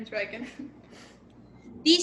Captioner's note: laughter